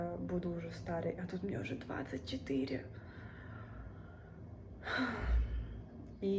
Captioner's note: sighs